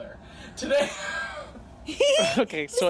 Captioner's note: giggles; laughs